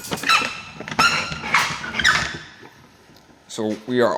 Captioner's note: door squeaking